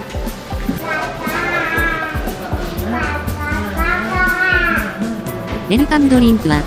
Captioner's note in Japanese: 赤ちゃんの声